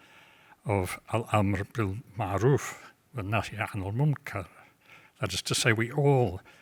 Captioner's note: speaks in foreign language